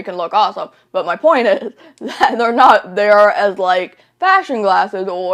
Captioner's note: laughs